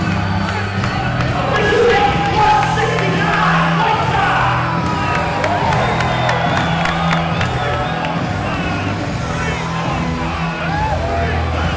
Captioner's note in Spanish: Aplausos